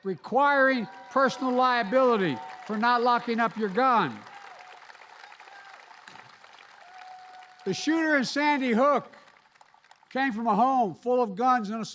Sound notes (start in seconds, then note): 4.7 applause